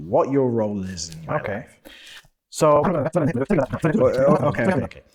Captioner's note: super Rapid Speech